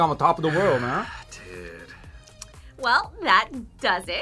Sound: sighs

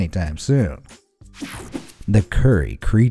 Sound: image whooshing

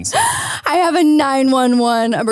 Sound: laughs

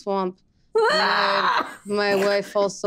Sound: Isabella guffawing

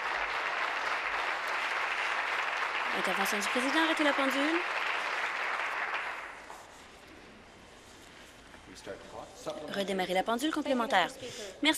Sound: applause

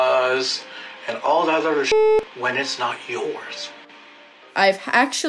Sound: beep

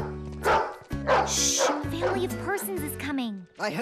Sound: laughing

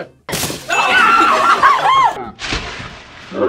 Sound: group laughs

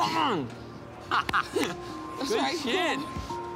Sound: laughs

